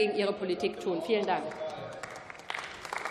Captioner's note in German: Beifall